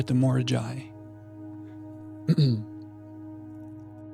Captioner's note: clears throat